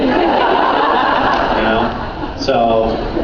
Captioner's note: laughs